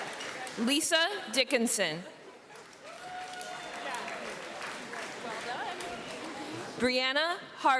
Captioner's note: applause